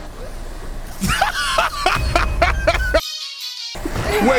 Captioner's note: laughing